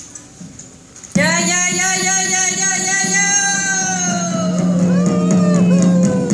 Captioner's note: Mapuche battle cry